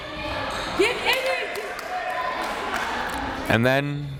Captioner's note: crowd members shouting